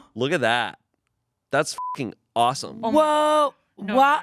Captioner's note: beep